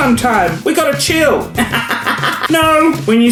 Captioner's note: laughs